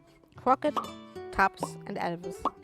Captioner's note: mouth popping